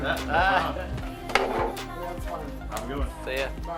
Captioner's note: laughing